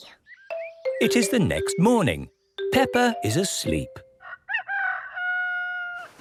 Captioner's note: cock-a-doodle-doo